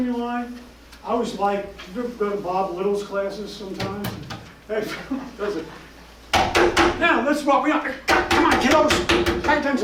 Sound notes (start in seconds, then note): 3.6 tapping on desk; 8.1 tapping